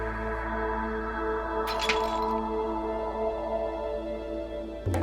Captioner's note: stone clatters